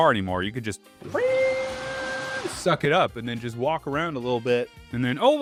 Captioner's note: vacuum sound